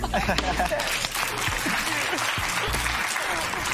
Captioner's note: applause